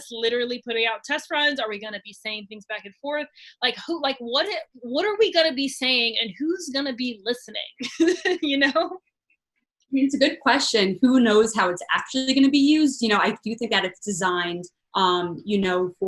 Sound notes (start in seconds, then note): 7.8 chuckles